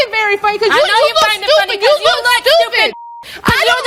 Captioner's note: yelling